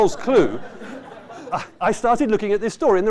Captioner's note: laughter